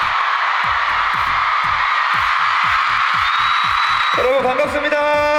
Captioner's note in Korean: 인이어를 빼고 잠시 느껴보는 캐럿들의 열띤 환호